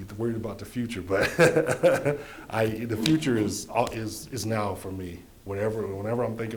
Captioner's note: laughing